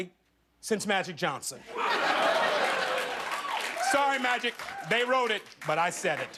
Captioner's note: laughter